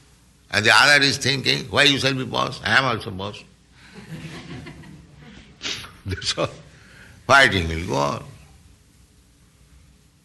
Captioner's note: laughs